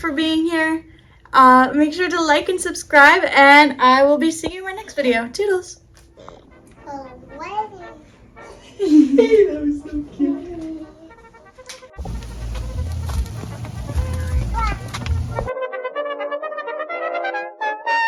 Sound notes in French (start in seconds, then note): 6.8 sons d'un tout-petit; 11.0 un enfant excité crie; 14.1 trompette optimiste